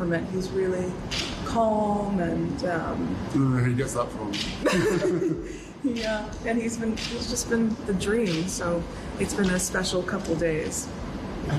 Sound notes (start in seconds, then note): 4.6 Meghan and Harry laugh